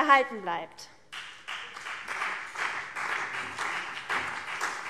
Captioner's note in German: Beifall CDU und BÜNDNIS 90/DIE GRÜNEN